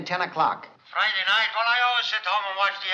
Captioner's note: on phone